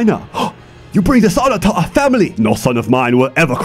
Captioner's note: gasp